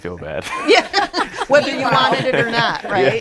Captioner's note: all laughing